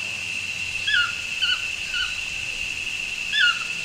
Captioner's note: birds chirping